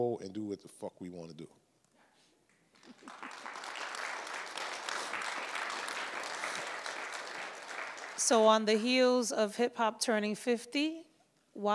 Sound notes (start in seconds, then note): 2.5 audience applauds